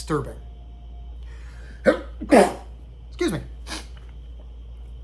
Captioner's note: sneeze